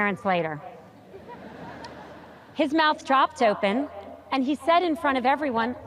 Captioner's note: audience chuckles